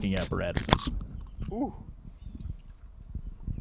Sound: beer cans opening

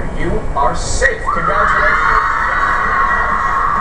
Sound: cheers and applause on tv

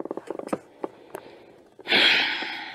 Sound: deep sigh

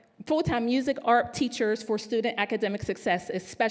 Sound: none

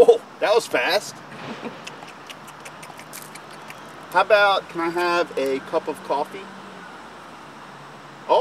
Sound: chomp, chomp, chomp

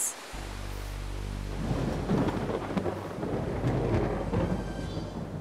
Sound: thunder crackles

